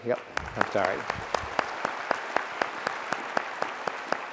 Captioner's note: applause